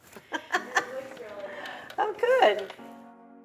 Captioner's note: laughs